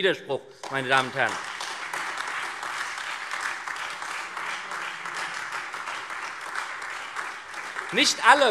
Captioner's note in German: Beifall SPD, AfD und Freie Demokraten